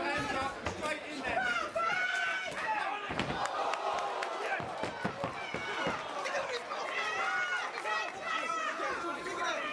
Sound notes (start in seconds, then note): 1.6 audience member shouting; 3.4 clapping; 3.6 crowd